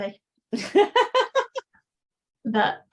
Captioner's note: laughing